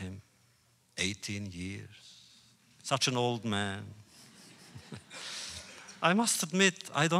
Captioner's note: laughter